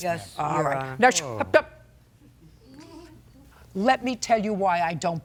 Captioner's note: Judge Judy shushes